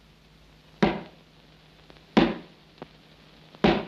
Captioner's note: hammer bangs